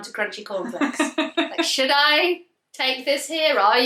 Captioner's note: laughs